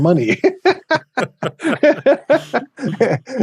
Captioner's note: both laughing